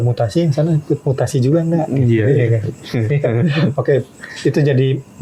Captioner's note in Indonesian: tertawa